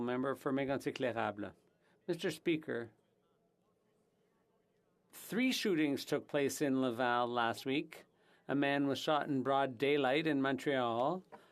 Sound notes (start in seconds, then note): 2.2 speaking French